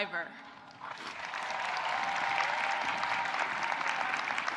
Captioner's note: audience applauding